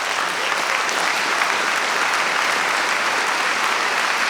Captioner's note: audience applauding